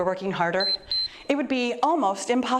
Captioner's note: timer beeps